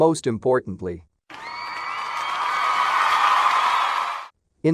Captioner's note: cheering